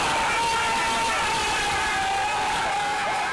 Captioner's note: cheers